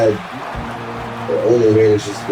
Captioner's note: crowd Noises